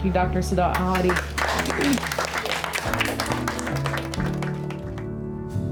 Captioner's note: clapping